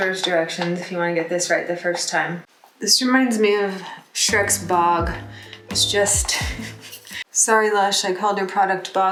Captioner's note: chuckles